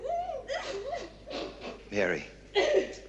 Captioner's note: laughter